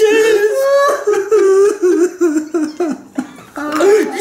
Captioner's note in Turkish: ağlamalara devam